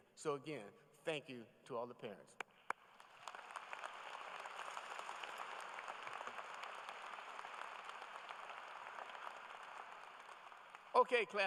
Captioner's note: applause